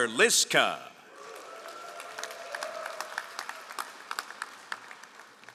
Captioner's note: all applauding